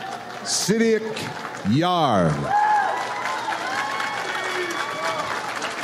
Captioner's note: audience applauds